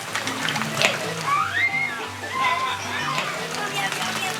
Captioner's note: fish splashing; boys squealing